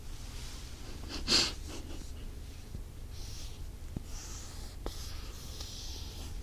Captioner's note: writing sound